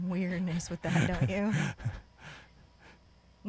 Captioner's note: chuckles